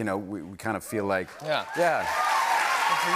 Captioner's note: cheering and applause